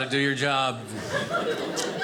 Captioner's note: audience laughing